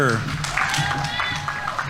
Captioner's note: audience members cheering